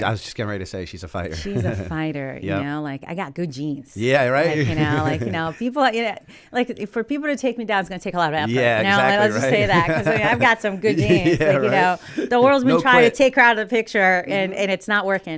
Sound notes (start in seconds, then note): 3.2 chuckle; 8.9 laughter